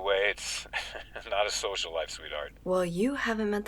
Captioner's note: chuckles